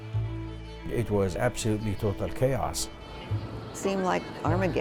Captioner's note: voiceover